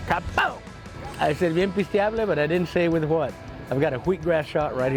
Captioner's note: speaking Spanish